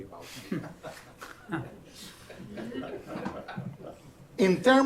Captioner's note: laughter